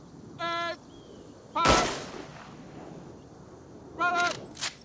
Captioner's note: gunshots